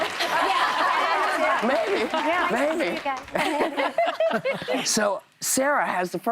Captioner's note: cheers and applause